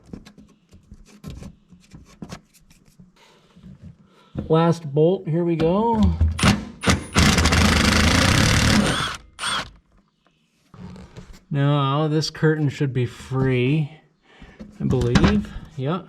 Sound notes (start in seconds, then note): 0.1 finger scratching; 6.8 screwdriver rasping